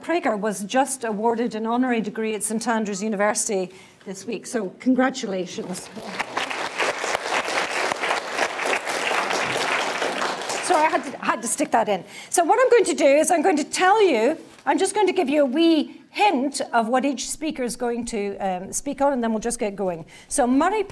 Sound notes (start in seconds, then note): 5.9 applause